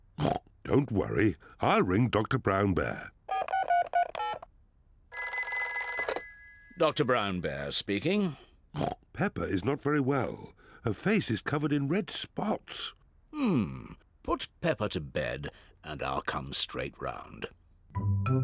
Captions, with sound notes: (OINKS) Don't worry. I'll ring Doctor Brown Bear. (DIALING) (PHONE RINGS) Doctor Brown Bear speaking. (OINKS) Peppa is not very well. Her face is covered in red spots. Hmm. Put Peppa to bed and I'll come straight round.